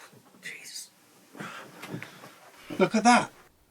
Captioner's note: sighs